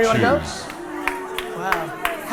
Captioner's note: cheers and boos